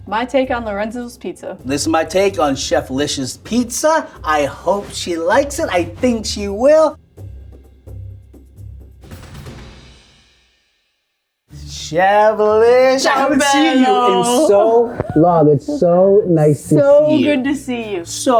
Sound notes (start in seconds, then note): 14.5 speaking Italian